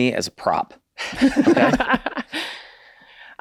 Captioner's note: everyone laughs